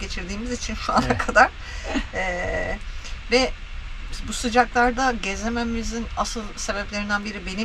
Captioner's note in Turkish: kahkaha